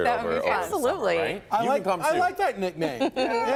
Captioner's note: laughter